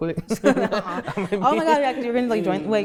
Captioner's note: both laugh